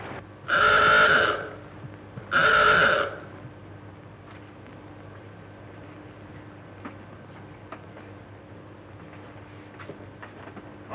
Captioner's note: alarm sounds